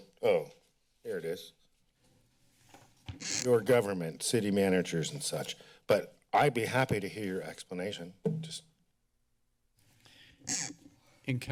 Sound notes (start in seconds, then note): 3.1 mic rustling; 8.8 taps the table; 10.4 mics rustling